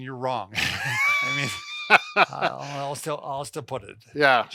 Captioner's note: laughing